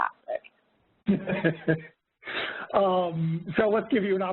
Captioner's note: laughing